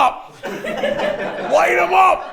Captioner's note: everyone laughs